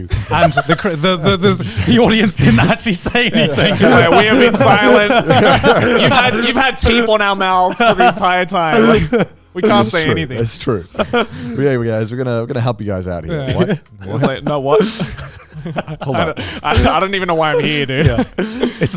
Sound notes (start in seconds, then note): 0.0 cackling; 3.7 laughing; 15.2 speakers laughing